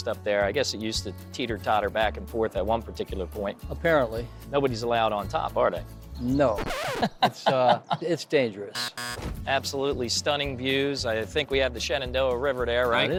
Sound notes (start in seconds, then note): 6.5 record scratches; 8.7 buzzer plays